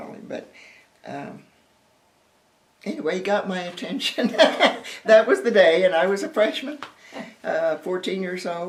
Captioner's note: laughter